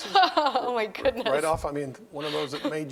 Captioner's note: laughs